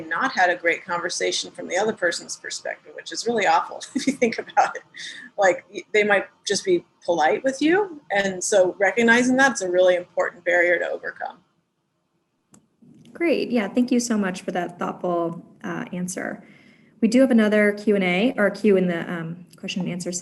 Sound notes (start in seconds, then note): 3.9 laugh